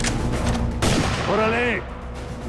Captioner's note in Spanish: Disparo